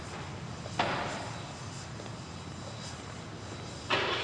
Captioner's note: none